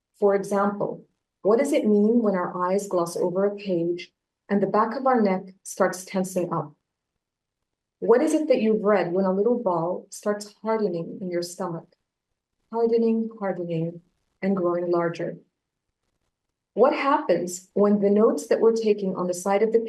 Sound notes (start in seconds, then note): none